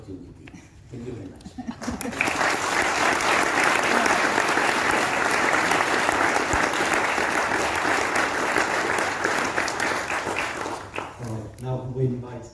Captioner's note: applause